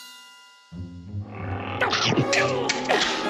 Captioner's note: growling, chomping